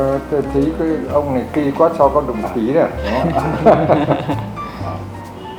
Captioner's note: laugh